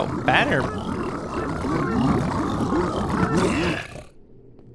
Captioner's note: growling